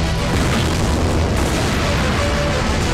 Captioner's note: Explosion